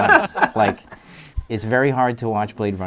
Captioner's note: everyone laughs